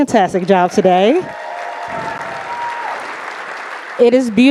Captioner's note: audience applauding